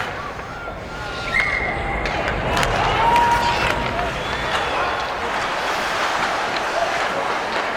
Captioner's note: people cheering; whistle blows